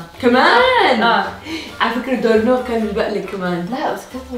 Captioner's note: gasps